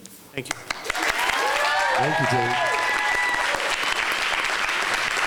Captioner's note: applause